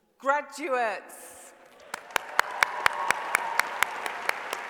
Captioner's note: applause